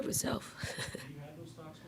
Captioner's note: Dawn laughing